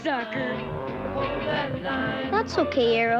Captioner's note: growling